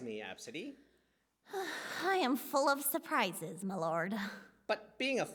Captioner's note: sigh